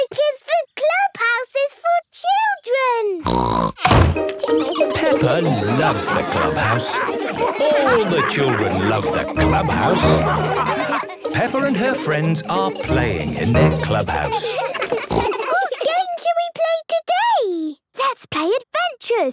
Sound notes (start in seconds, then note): 3.2 snorts; 10.5 all laughing; 12.5 giggles, snorts